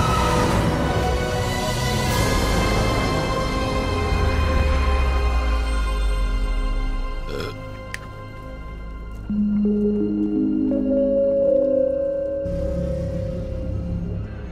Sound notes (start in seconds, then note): 7.2 burps; 7.3 snaps fingers; 9.0 plays piano melody